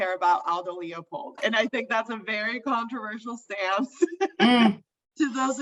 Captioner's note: laughs